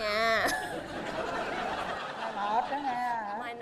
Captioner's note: laughing